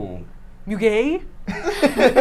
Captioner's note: imitates French accent; all laugh